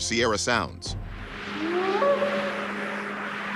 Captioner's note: short howls